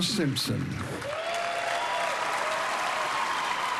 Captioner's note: cheering and applause